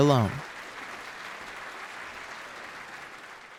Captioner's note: applause